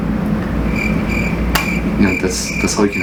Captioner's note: crickets sound